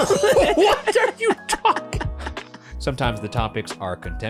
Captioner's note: laughing